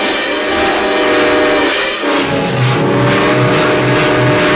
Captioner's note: train whistles